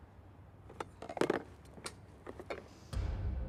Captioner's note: objects clattering